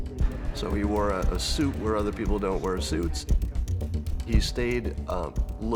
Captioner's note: laughs; upbeat music